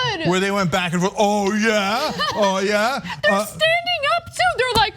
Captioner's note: laugh